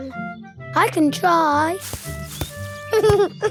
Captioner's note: leaves rustle; giggling